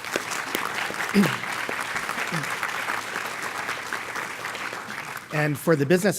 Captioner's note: applause